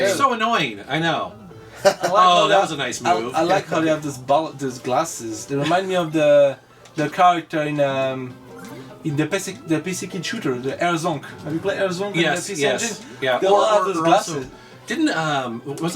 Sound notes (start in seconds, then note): 1.8 laughs